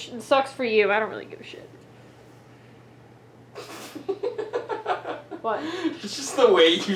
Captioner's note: laughs